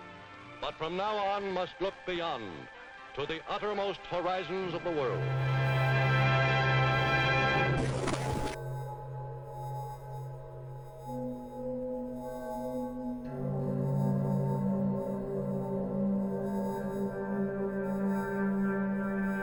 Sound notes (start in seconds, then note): 7.7 radio static; 9.2 eerie music builds